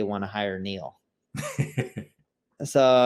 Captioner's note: laughing